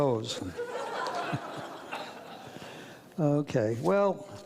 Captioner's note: audience laughs; laughs